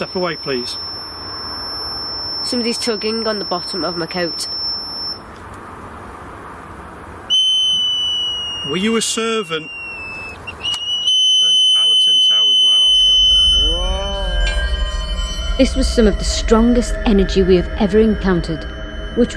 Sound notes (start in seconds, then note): 7.5 energy detector device beeping and whistling